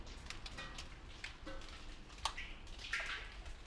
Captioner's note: drops echo on metal